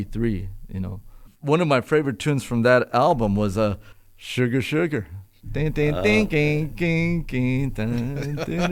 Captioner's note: ting, ting, ting, ting, ting, ting